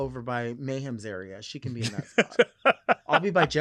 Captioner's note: laughing